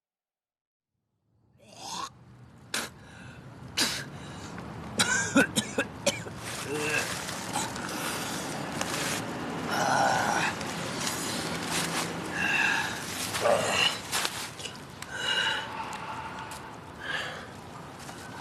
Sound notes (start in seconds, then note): 1.1 hawks up spit, throws up, coughs; 9.1 exhales, panting heavily